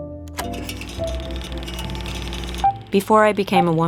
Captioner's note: soft rattling